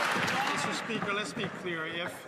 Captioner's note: some Applause